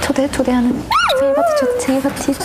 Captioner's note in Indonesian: Suara lumba-lumba kegembiraan